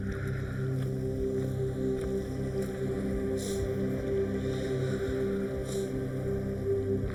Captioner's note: none